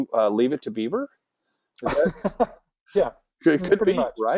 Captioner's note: laugh